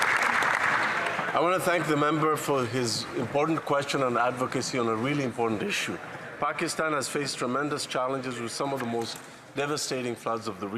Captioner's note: applause